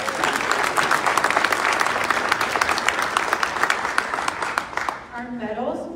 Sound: clapping

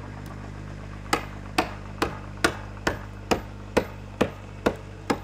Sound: hammer banging

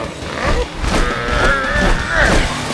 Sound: grunting

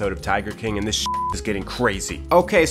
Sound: beep

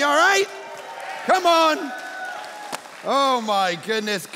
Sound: congregation applauding

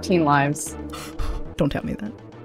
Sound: gasp

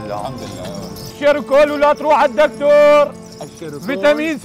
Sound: shouting; continues shouting

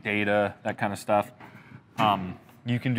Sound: door softly shutting

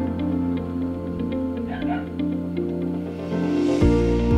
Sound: dog barking

